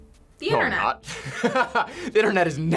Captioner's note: laughs